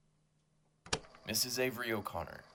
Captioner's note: a click, like a tape recorded starting up